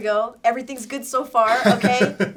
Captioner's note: laughs